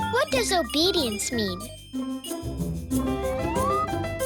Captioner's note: beeping